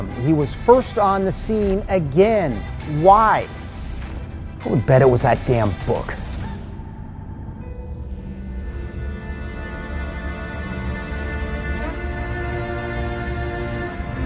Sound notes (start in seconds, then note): 7.8 device whirring; 7.8 suspenseful music